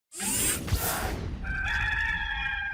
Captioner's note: zooming sounds; rooster crowing